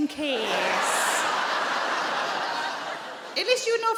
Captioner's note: crowd laughs